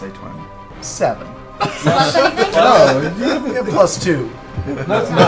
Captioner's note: laughs